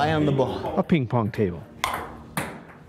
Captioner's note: ping pong clacks